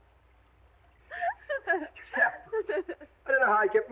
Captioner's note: Ettie giggling